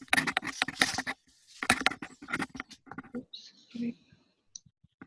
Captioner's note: shuffling